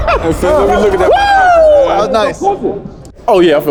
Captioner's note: cheers